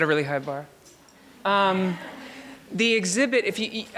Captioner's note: audience laughs